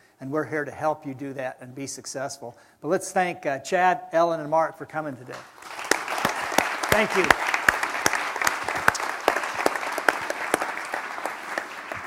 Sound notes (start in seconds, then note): 7.5 applause